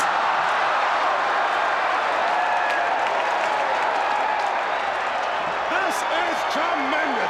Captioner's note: crowd cheering